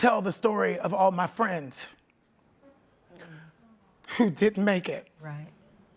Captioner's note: voice breaking